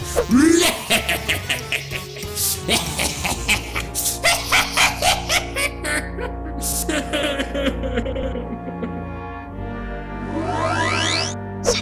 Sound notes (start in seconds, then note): 0.2 laughing hysterically; 6.8 sobbing